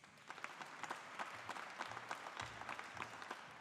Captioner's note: audience applauding